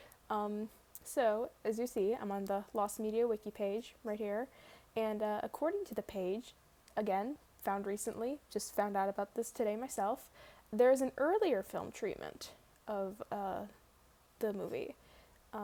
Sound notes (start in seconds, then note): none